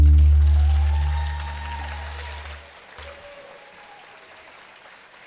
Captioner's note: attendees clapping and cheering